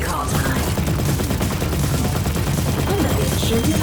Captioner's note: laser blasts